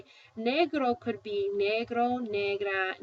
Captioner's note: spanish; speaking spanish